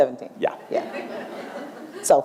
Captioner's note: laughter